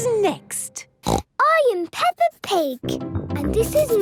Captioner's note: snorts